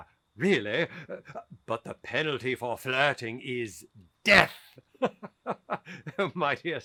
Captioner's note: laughs